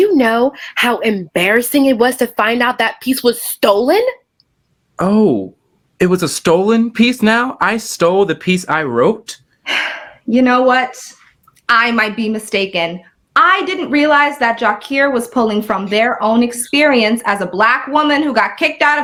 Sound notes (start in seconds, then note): 9.7 sighs